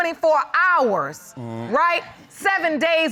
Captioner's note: groans